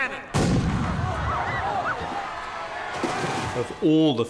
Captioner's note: crowd cheering